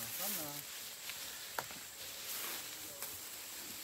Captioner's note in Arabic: النقيق السيكادا